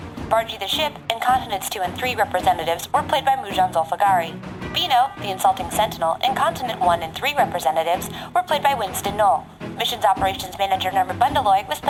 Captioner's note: laughing